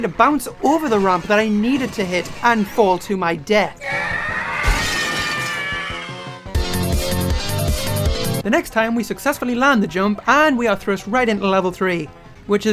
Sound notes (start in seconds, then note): 3.8 screaming and a crash